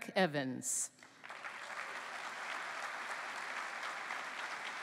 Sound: applause

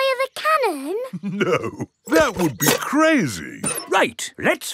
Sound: chuckling

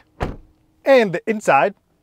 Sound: door clicks shut

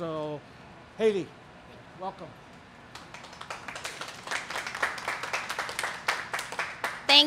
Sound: applause

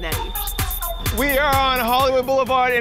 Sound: crowd cheering

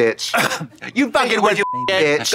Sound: beeping

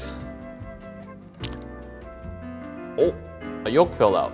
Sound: yolk squishes

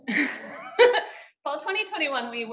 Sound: woman laughing

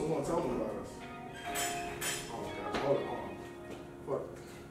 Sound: door Bell Ringing

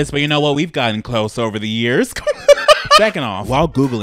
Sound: laughs

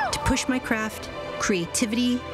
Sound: cheering

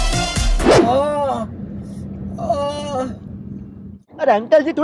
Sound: groaning in pain

